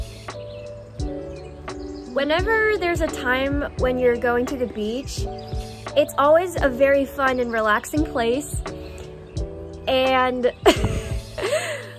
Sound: laughs

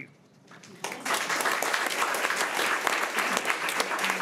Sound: crowd clapping

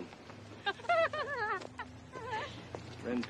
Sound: giggling

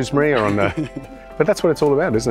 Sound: laughing

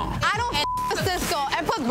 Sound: beep

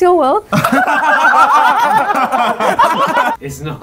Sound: all laugh

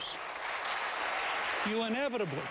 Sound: applause

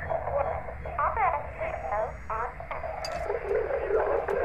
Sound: distorted speech

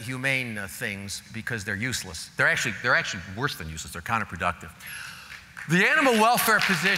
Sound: applause

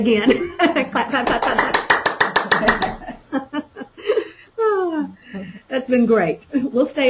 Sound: sound of clapping

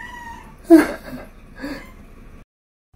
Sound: laugh

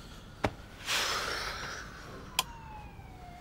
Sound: sighs

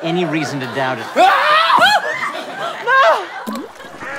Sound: screams; plopping sound

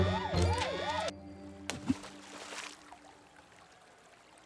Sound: splash!

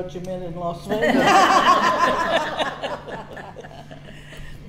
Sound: all laugh

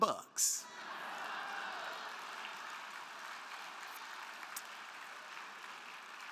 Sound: crowd cheering; crowd clapping

